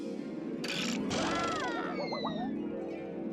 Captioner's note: Daffy yelling